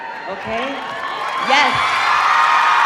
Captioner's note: audience cheering